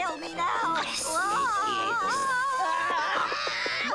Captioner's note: screaming